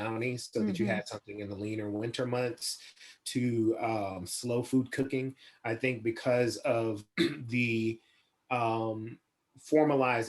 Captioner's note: laughs